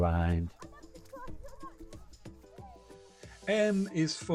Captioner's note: sound of children playing & music